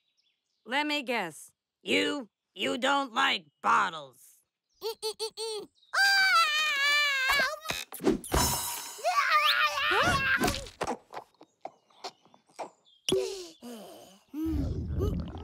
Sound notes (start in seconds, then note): 6.0 crying; 9.1 crying